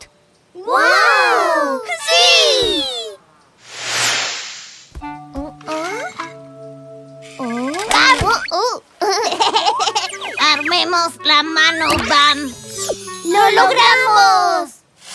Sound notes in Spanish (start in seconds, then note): 9.0 Risas